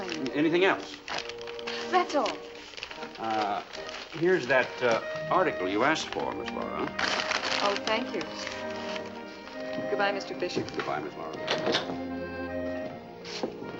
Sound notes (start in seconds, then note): none